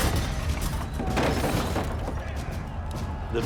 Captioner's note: crowd shouting indistinctly